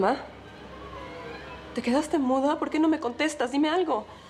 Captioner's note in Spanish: none